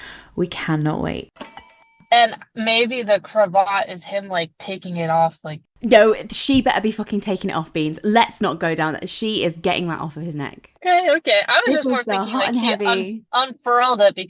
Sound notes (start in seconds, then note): 1.4 bell dings